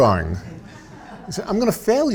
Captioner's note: audience laughs